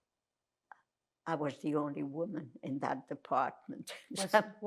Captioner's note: laughing